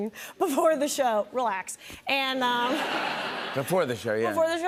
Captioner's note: laughter